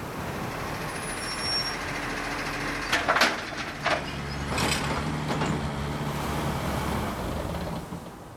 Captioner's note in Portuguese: som de obra, máquinas trabalhando